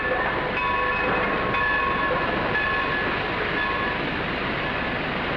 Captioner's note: station bell rings; train rumbles